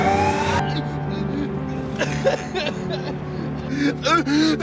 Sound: putting on the weeps

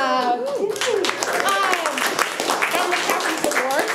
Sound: room applauds

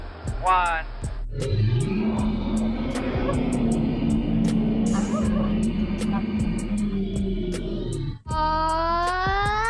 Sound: Opposite Robot Flip roars

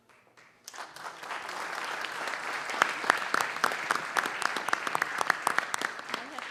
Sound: applause

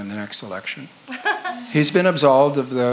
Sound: laughs

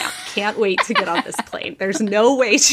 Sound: both laughing

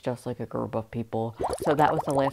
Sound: bubbles

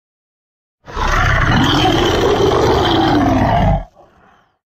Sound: loud Roaring

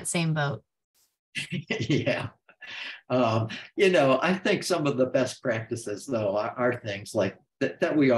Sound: laughs

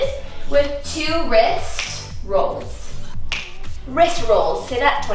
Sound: fingers snap

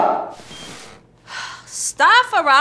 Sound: sigh

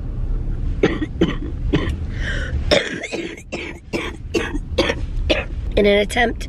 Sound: coughing

